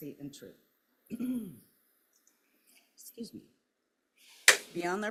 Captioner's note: clears throat